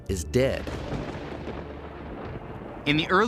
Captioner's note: thunder in distance